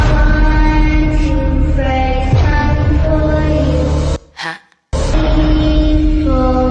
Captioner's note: none